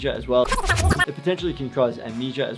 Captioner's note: squeaking